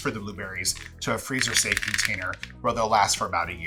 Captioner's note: blueberries clattering